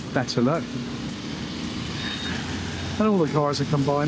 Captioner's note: car honks